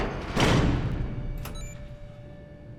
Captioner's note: beeps